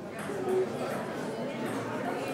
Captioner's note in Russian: none